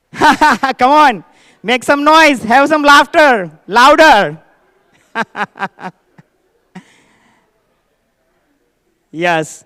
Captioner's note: laughter; laughter